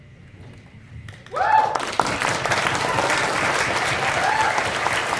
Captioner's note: applause